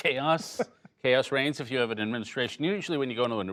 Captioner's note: laughter